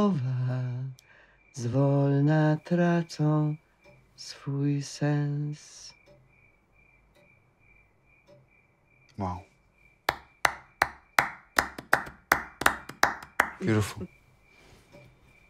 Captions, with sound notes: Wow. [clapping] Beautiful.